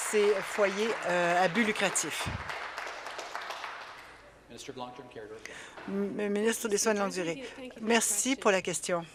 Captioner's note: applause